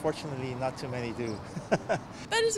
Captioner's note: laughter